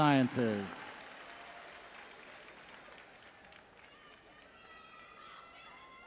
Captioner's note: audience chattering